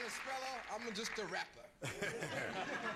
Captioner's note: laughter